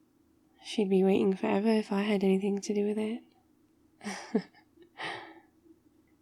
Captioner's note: laughs